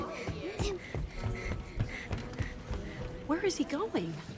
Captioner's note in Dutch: hijgend